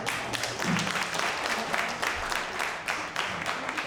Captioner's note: audience clapping